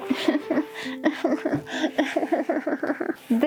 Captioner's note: cries again